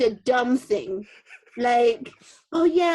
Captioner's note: laughing